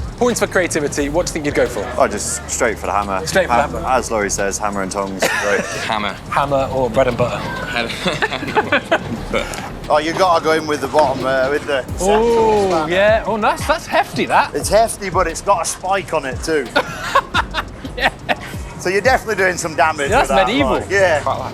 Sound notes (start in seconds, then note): 5.0 laughs; 9.3 both laugh; 17.2 laughs